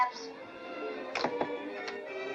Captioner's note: door closes; romantic music